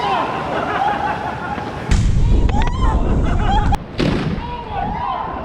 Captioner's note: contraption explodes